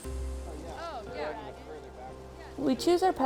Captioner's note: indistinct chatter